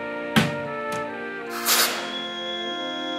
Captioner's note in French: pffff